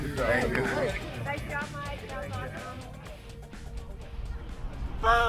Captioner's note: murmurs